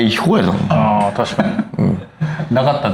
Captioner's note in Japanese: 笑い